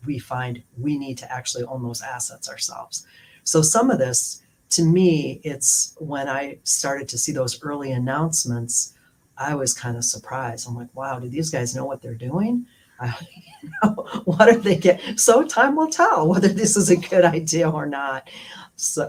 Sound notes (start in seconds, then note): 13.2 laughter